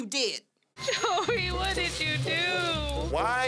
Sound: laughing

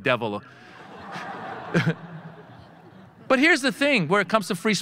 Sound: audience laughing

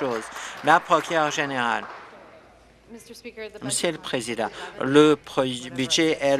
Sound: applause

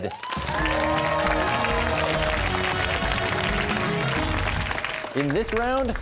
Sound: cheers and applause

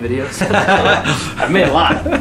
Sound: laughter

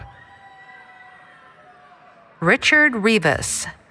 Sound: cheering

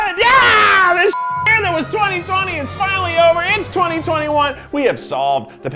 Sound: beep

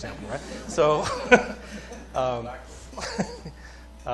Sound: laughter

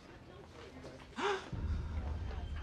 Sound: gasps

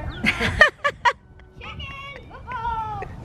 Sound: laughs

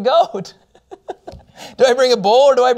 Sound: laughter

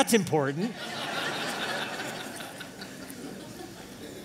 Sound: laughter

